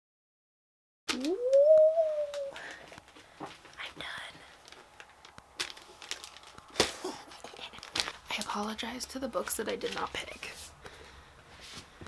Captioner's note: evil laughter